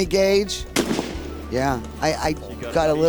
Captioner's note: gunshot fires